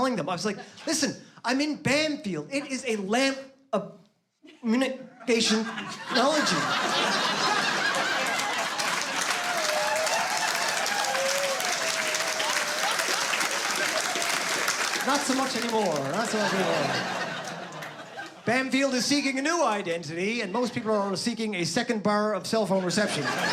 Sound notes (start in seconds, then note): 7.2 laughter